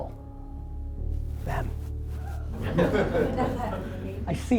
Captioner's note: group laughter